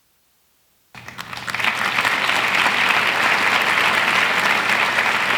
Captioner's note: audience applauds